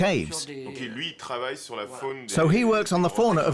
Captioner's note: speaking French